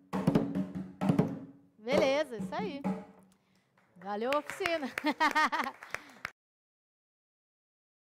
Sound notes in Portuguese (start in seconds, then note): 3.7 aplausos